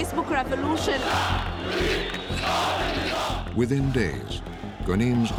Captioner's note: crowd chanting